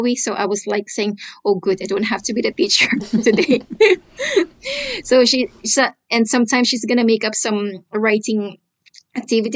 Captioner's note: laughter